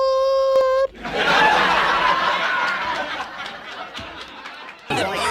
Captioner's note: laugh track, applause